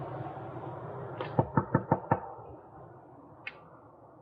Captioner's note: knocking